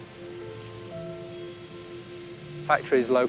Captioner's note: birdsong and buzzing